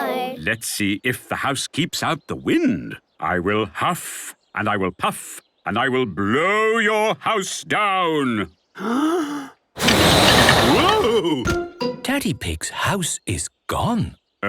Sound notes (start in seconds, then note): 8.8 inhaling deeply; 9.8 blowing